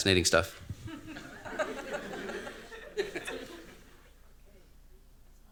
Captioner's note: laughter